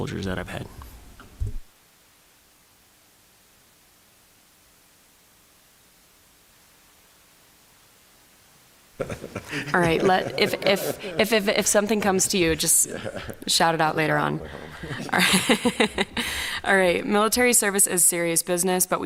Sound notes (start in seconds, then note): 9.0 laughter; 15.1 chuckles